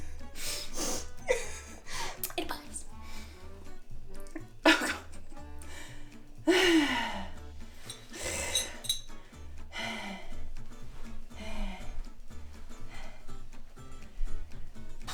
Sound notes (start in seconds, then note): 0.7 and camera person laughing; 4.8 laughs; 7.8 sighs; 9.0 breathing heavily